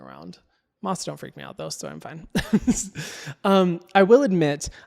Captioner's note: chuckles